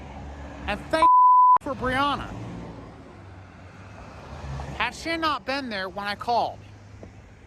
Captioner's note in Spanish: bip